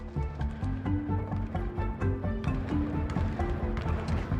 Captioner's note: basketballs thudding